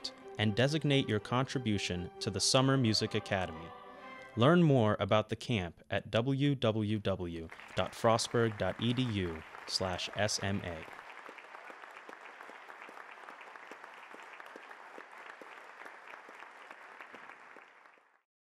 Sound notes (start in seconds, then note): 11.6 applause